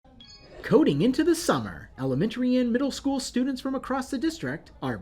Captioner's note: beeping